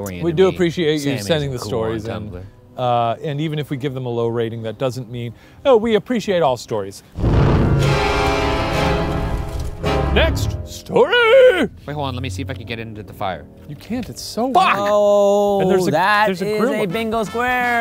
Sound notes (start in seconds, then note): 7.1 intense music; 7.1 smoke whooshing